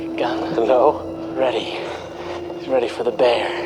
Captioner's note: laughs